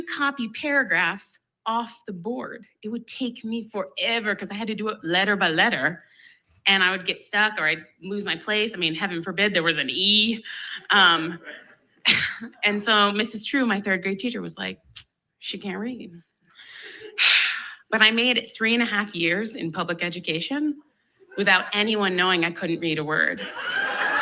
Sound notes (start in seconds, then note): 16.5 sigh; 23.4 laughs